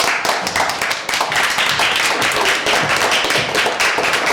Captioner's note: applause